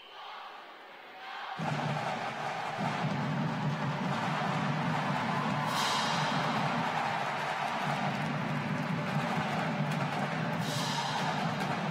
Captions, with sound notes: 320 OF MY VERY FAVORITE PEOPLE. [WHISTLE] [DRUM CADENCE]